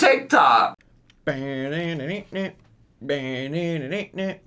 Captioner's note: hums music